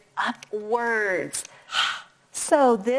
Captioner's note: sighs